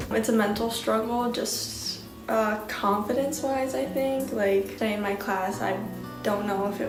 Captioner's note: none